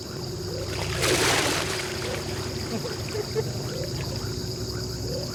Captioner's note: water splashing